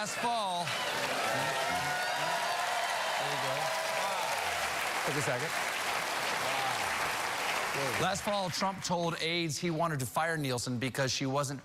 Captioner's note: cheers and applause